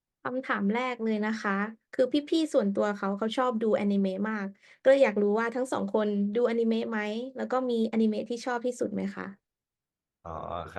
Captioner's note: repeating the question in Thai